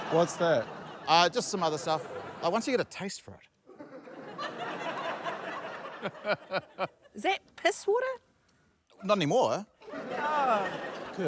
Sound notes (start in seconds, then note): 3.6 laughter; 6.2 chuckles; 9.8 laughter